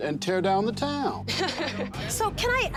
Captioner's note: laughs